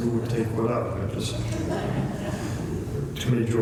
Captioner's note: laughter